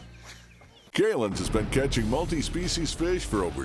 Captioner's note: voiceover